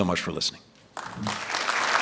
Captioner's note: applause